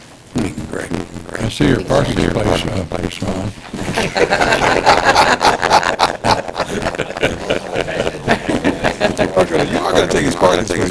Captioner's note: laughter